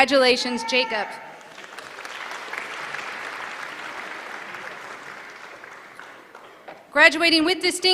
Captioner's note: applause